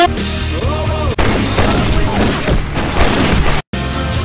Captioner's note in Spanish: Disparos